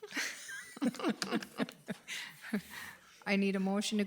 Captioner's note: laughing